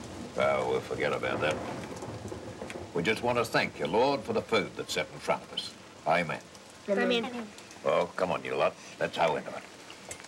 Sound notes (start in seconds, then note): 1.8 rain dripping; 1.8 thunder rumbling